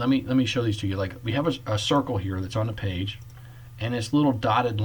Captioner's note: click